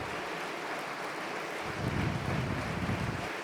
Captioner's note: applause